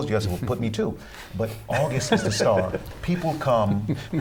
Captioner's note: laughter